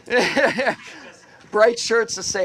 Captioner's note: laughter